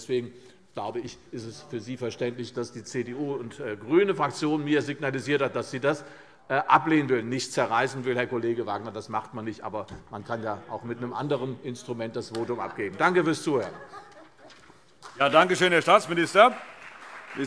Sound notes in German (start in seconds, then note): 14.9 Beifall CDU und BÜNDNIS 90/DIE GRÜNEN